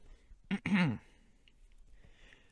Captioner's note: ahem